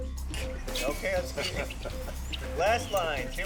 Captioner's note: laughs